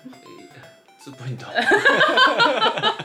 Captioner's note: laughter